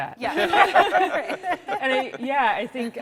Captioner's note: all laughing